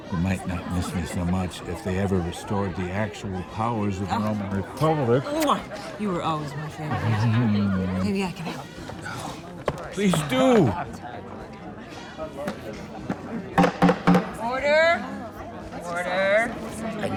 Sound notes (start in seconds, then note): 6.7 chuckles; 13.6 banging gavel